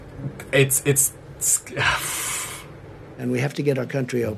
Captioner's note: sighs